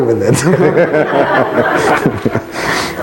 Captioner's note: laughs loudly